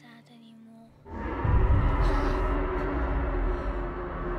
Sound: dinosaur growls

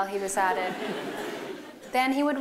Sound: laughter

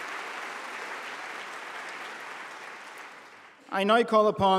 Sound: applause

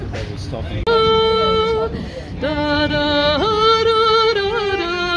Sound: humming / playing

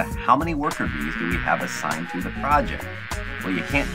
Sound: bees flying around

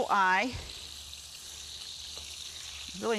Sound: meat sizzling

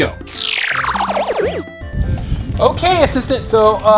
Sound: lasers whooshing

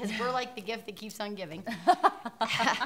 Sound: laughing

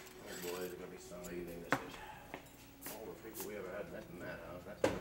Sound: Charlie grumbles

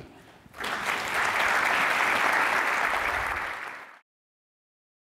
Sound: audience applauding

